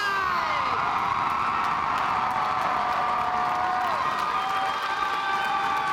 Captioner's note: audience cheering and applauding